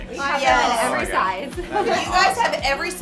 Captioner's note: chuckles